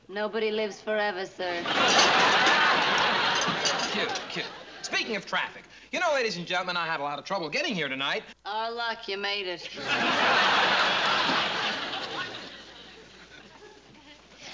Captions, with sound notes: Nobody lives forever, sir. [LAUGHTER] Cute, cute. Speaking of traffic, you know, ladies and gentlemen, I had a lot of trouble getting here tonight. Our luck, you made it. [LAUGHTER]